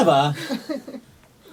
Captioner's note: background giggles